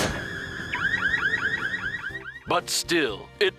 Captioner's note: alarm beeps